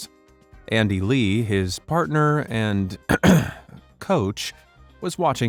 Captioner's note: coughs